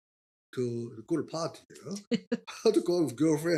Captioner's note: laughing